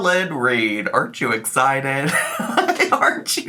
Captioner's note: laughs